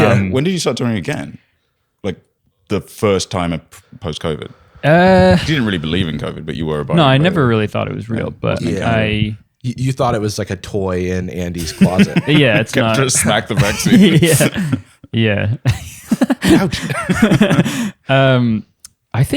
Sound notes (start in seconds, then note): 15.6 laughter